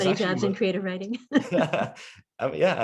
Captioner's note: laughs